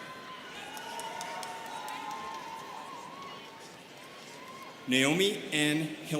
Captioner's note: students cheering